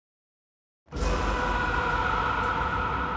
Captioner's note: screaming